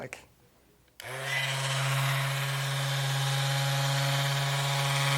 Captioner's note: machine buzzing